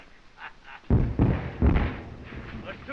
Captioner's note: explosions continue